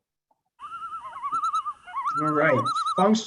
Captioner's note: birds chirping